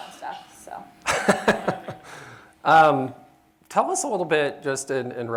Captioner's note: laughs